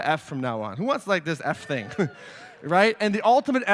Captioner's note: audience cheers